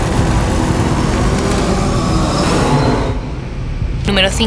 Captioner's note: bicycle chains; mechanical whirring